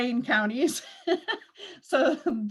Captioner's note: laughs